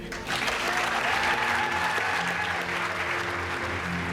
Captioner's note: audience applauds